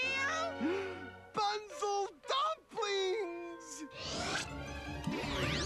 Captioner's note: gasps